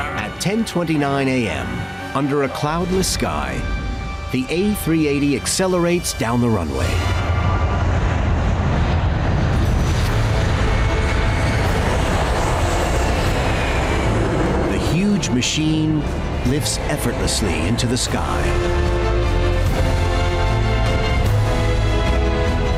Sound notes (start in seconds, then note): 11.5 jet engine roaring; 18.9 lively upbeat music